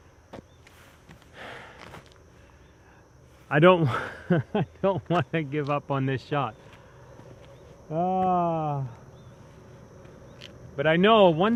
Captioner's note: laughing